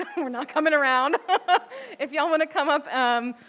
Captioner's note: chuckles